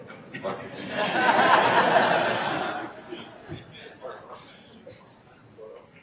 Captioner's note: attendees laughing